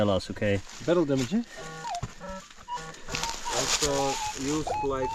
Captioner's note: metal detector beeping